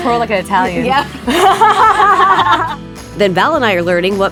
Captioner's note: both laughing